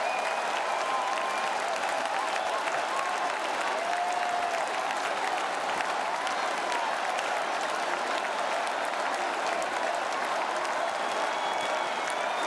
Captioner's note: cheering and Applause